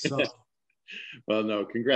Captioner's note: laughs